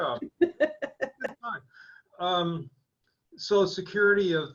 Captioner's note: laughing